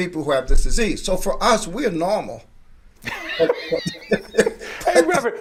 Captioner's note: laughing